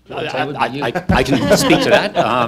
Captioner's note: laughing